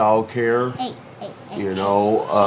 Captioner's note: toddlers babbling